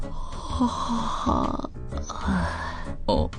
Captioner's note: yawn